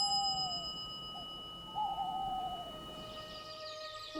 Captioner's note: owl hooting